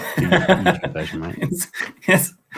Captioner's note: laughs